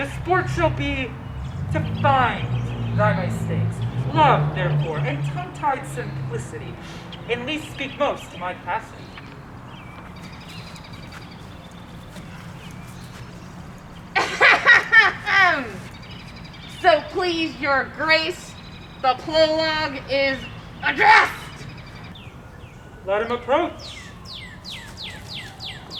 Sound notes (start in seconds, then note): 14.5 clearing throat